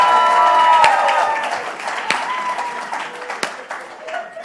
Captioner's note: clapping continues